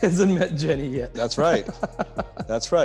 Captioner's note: laughs